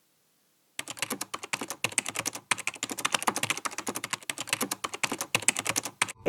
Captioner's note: typing